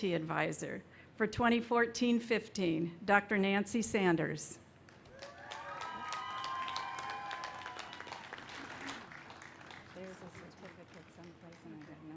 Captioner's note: applause